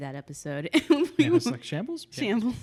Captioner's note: laughs